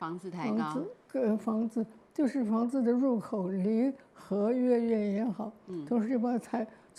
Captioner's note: Mandarin; Mandarin